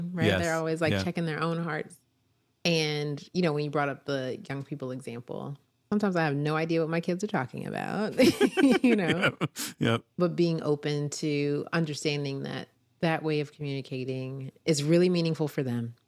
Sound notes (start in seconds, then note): 8.1 both laugh